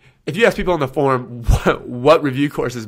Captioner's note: laughs